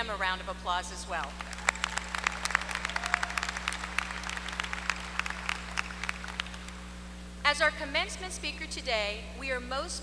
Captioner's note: applause